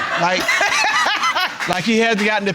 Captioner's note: laughing